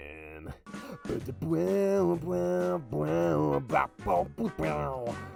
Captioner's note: announcer vocalizes